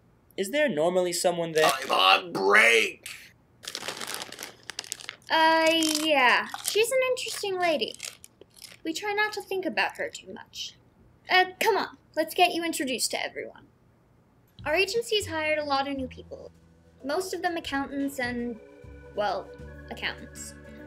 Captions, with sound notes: -Is there normally someone there? -I'm on break! [RUSTLING CHIP BAG] Uh, yeah, she's an interesting lady. [OM NOM NOM] We try not to think about her too much. Uh, come on. Let's get you introduced to everyone. Our agency's hired a lot of new people. Most of them accountants, and...well, accountants.